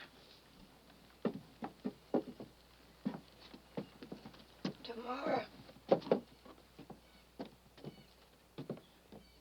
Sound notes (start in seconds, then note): 1.0 cane tapping on porch